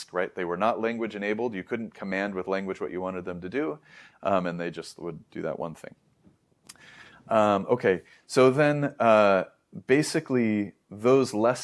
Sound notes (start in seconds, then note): 6.6 lips smack; 6.7 inhales